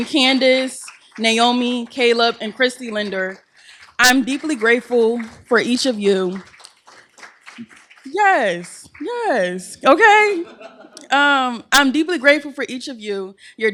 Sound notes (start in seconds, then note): 6.6 applause; 9.9 laughter